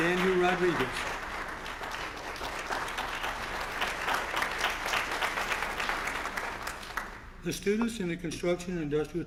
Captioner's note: applause